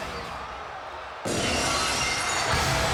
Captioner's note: audience cheers; glass shatters; upbeat music